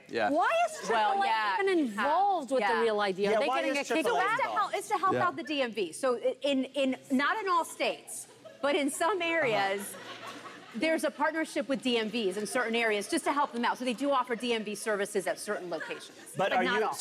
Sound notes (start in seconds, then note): 6.5 stammers